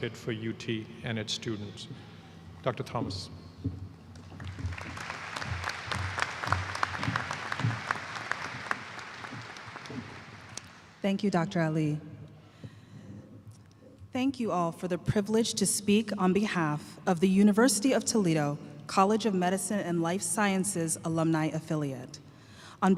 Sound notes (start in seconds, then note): 7.5 applause